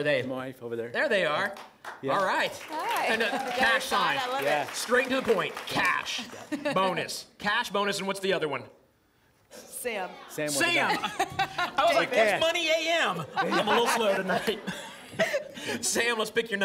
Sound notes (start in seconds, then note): 13.2 laughter